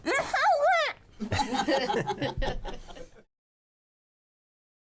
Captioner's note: everyone laughing